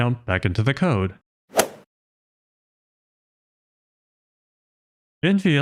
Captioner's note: golf ball hit sound effect